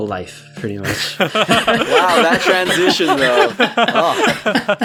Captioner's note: laughing